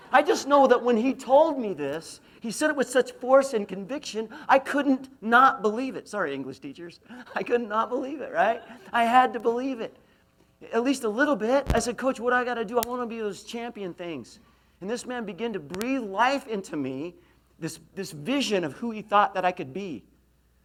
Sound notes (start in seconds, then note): 8.3 laughs